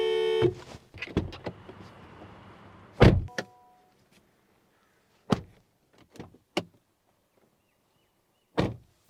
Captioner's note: door Thud